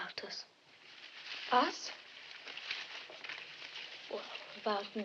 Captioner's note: rustling